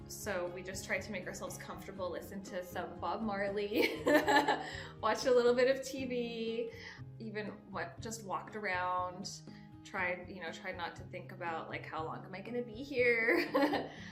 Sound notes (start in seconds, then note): 3.8 giggling